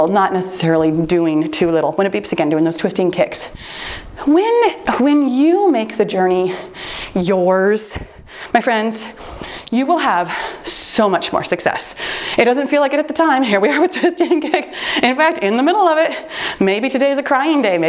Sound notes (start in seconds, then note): 9.6 timer beeps